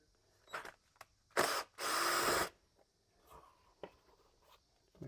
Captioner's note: drill whirs